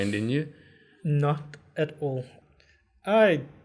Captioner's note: laugh